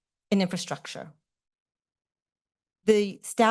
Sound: pause

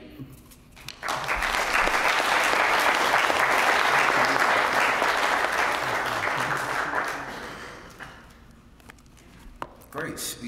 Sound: applause

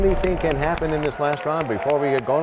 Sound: crashing sound

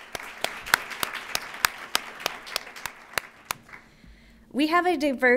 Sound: applause

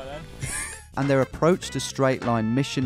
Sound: voiceover

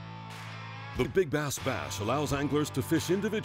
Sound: voiceover

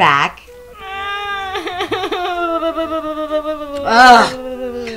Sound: head in the box cries, whines, undulates

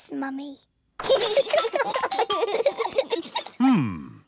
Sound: both giggling

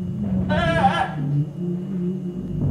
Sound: screaming

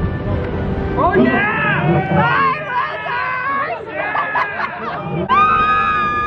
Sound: excited screams

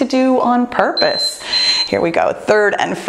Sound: timer beeps

